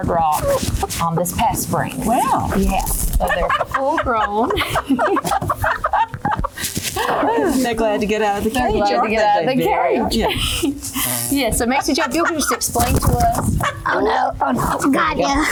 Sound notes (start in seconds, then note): 3.0 chickens clucking; 12.0 wings frantically flapping; 14.0 laughter